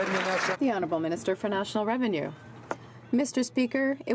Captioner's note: some Applause